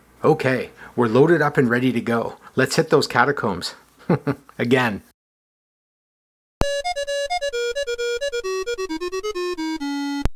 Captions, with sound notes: Ok, we’re loaded up and ready to go! Let’s hit those catacombs. [chuckles] Again. [chiptunes fanfare]